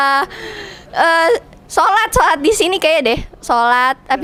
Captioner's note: hahaha